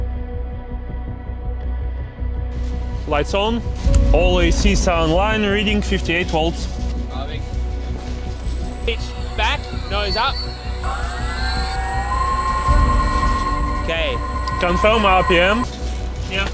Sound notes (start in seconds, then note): 11.1 mechanical whirring